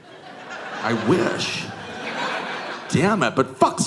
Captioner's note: audience laughing